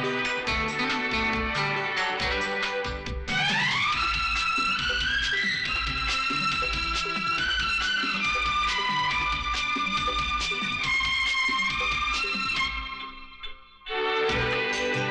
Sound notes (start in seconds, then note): none